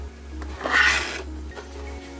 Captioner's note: cardboard noise